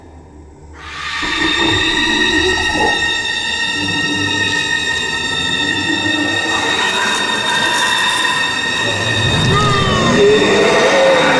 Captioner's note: horrible, high-pitched scream